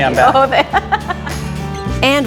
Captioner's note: laughing